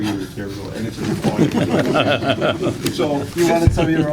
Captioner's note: laughter